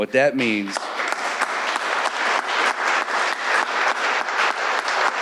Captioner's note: audience applauding